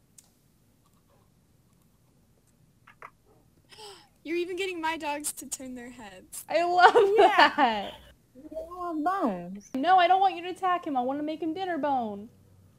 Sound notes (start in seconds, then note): 3.7 gasps